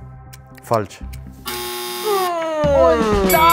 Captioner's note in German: Bemitleidende Laute